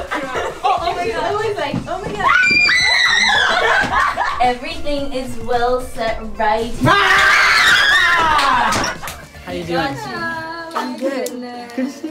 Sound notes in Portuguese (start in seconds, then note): 2.2 Gritos; 6.8 Gritos